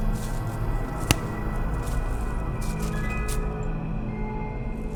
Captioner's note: twig snaps